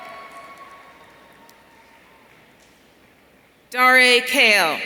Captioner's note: audience cheering